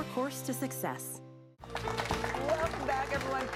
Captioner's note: applause